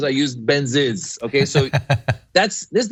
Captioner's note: laugh